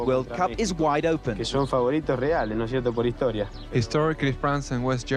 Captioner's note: Maradona speaking in foreign language